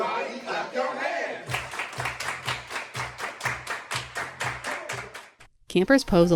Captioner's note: clapping